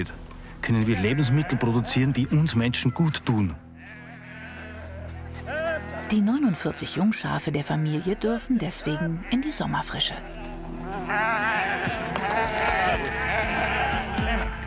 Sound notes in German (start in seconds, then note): 4.0 Blöken; 11.1 Blöken; 13.1 Treibende Musik